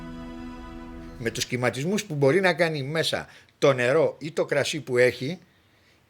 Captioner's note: speaking in Greek